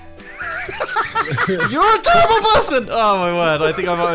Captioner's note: laughs